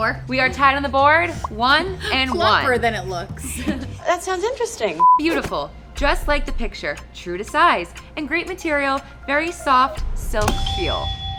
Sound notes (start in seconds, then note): 1.8 laughs; 5.0 beep